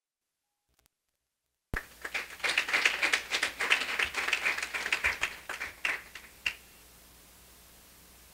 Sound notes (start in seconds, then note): 1.7 audience applauding